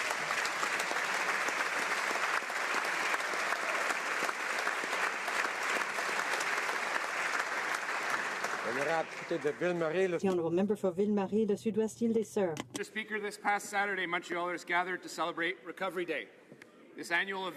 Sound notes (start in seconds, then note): 4.0 some Applause; 13.6 speaking French